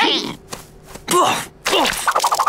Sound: grunting

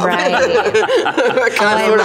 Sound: everyone laughs

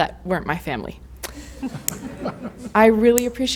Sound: laughter

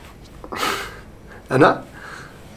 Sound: laughs

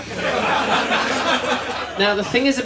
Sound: laughter

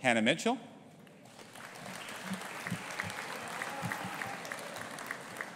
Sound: audience applauding

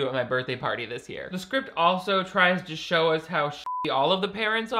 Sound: beep

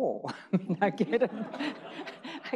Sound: people laughing

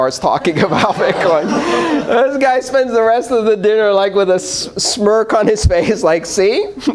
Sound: laughter

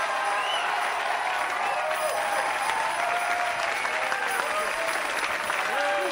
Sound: audience cheering and applauding

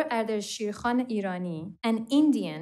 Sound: foreign language spoken

